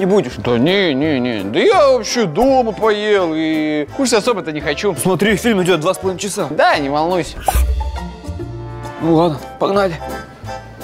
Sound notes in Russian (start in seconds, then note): 7.5 хитрый